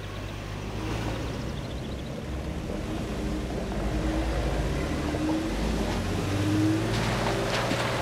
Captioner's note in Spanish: Ruido del auto